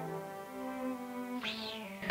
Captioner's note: swishing